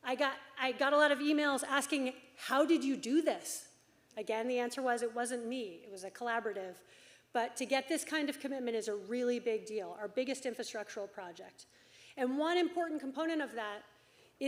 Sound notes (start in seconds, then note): none